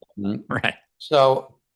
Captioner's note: laughs